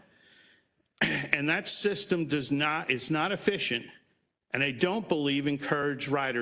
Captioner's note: cough